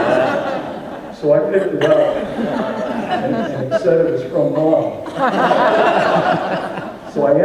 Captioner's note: audience laughs